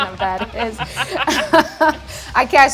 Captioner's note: laughter